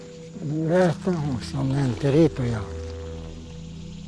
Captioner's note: speaking Spanish